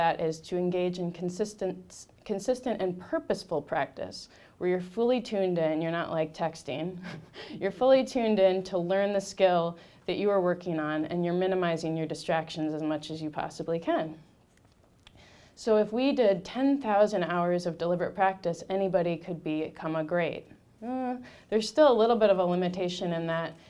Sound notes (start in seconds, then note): 7.0 laughing